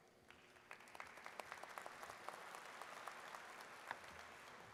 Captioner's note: audience claps